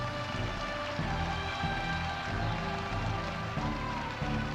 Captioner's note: audience applauding